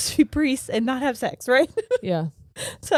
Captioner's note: laughing